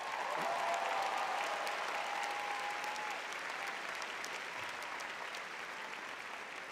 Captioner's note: audience cheering